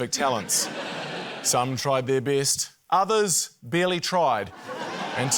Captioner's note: laughter